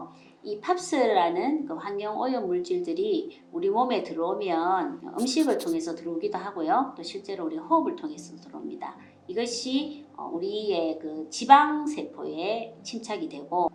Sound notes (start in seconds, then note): 5.2 POPs